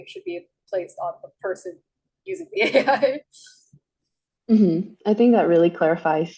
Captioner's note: laughs